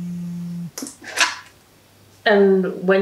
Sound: phone buzzes

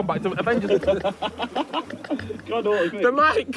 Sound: Josh laughing

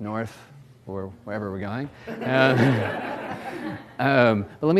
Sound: audience laughs

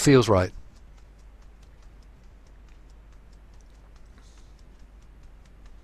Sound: fingers tapping softly

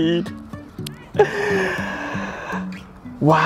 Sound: gasps

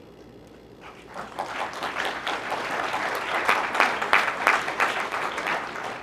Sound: applause

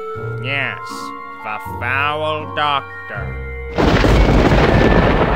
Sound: deadpan

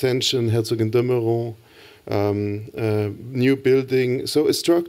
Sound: non-english speech

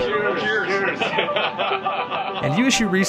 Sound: laughter

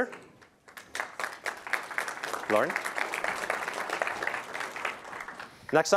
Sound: applause

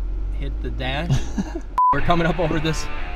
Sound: laughs

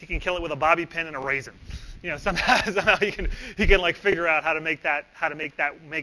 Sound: laughs

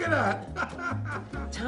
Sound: laughs

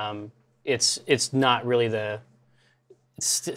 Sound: none

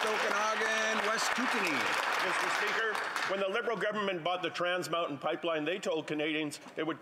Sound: applause

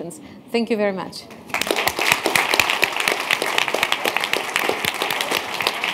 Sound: applause

